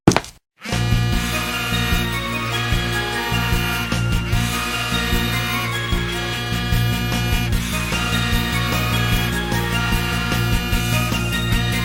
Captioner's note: Hannah Smith's Phone Ringing